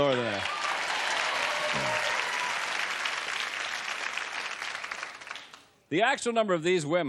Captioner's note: applause